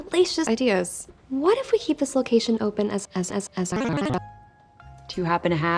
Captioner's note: crashes